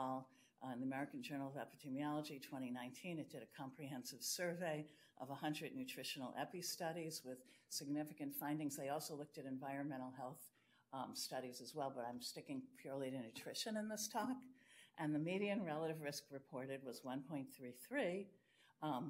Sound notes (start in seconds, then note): none